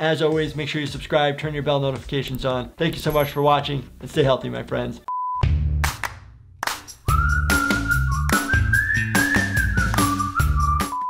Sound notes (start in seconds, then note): 5.2 loud beeping; 6.6 upbeat music